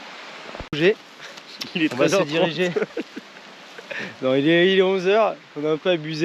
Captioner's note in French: rire